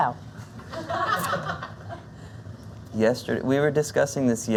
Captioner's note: laughter